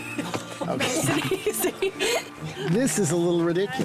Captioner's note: laughing